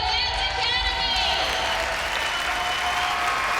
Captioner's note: cheers and applause